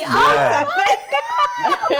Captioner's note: laughing